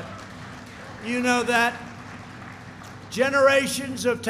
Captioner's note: applause